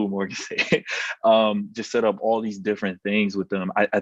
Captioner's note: laugh